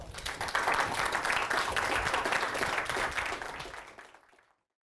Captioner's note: applause